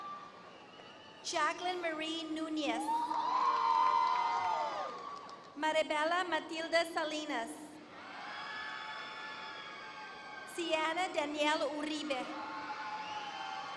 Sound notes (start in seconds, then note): 2.8 applause